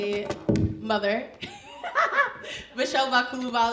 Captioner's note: chuckles